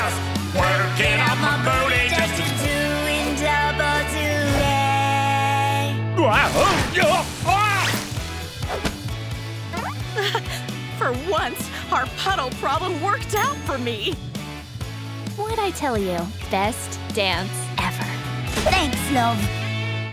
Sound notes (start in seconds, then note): 5.9 groaning; 9.8 giggling